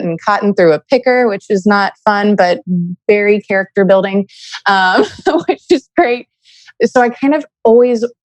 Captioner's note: laughs